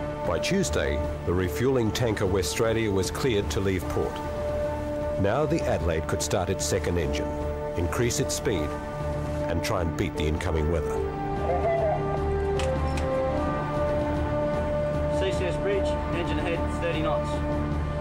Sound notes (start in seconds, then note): 11.4 distorted radio communication; 12.5 lever clicking; 13.6 determined music